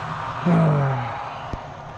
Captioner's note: frustrated sigh